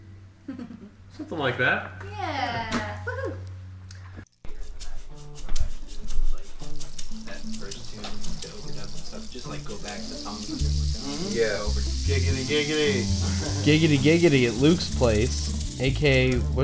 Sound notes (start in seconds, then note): 0.4 chuckles; 4.8 background chatter